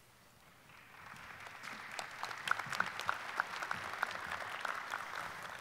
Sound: audience applauding

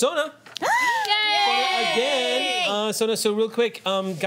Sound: cheering

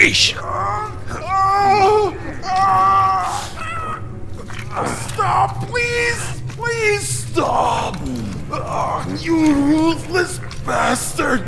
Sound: sound of suffering

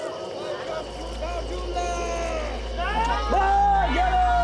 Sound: shouting

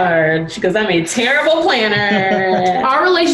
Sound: laughs

